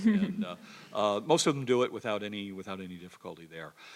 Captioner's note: laugh